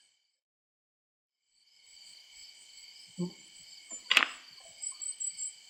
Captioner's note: crickets chirping